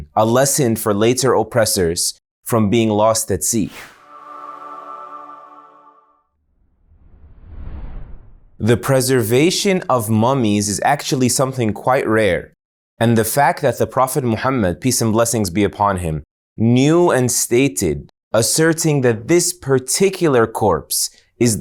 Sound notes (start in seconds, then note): 3.8 air whooshing